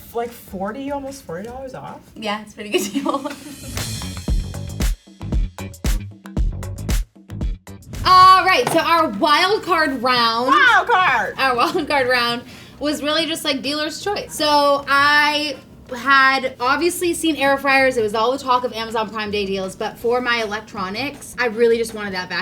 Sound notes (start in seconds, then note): 2.7 laughs; 4.2 upbeat music